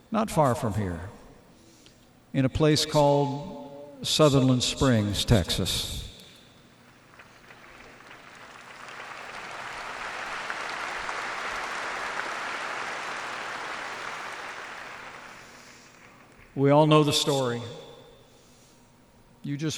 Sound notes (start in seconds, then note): 7.0 applause